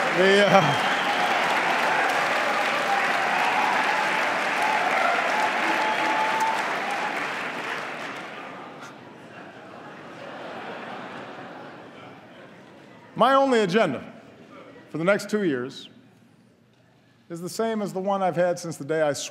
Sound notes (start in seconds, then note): 3.0 applause